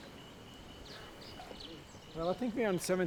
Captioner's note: birds chirping